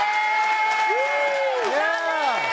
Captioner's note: audience cheering and applauding